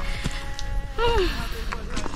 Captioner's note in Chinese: 呼氣